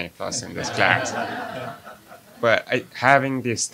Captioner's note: audience laughs